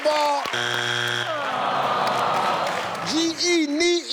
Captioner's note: error sound